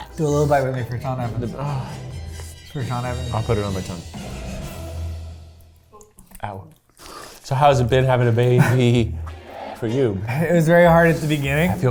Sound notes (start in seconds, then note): 1.7 sighs